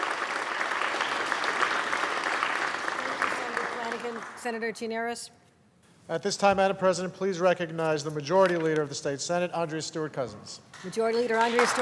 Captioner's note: applause